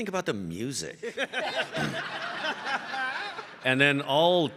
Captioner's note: all laughing